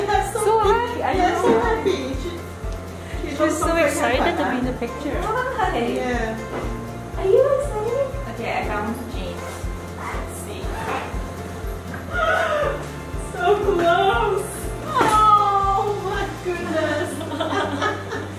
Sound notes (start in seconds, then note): 12.0 laughing; 14.9 laughing